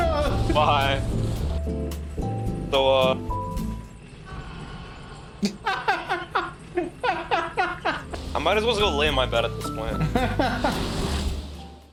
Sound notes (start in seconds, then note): 4.1 screams of dying; 5.4 laughing; 9.9 laughing